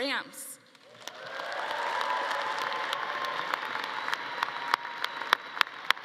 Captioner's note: audience cheering and clapping